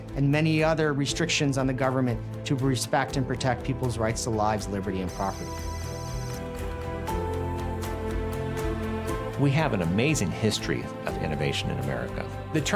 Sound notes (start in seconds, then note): 5.1 computer calculating sound effect; 6.8 inspiring music